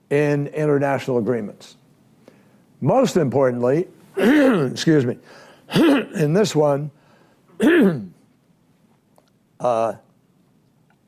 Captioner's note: clears throat